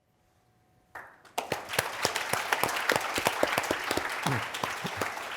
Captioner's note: audience applauding